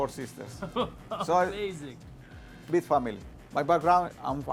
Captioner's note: chuckles